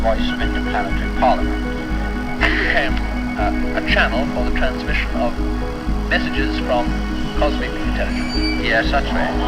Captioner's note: old radio broadcast calling to aliens